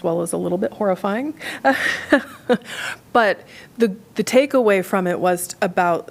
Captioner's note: laughter